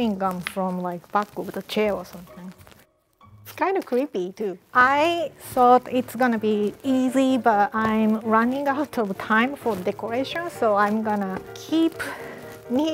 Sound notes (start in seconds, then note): none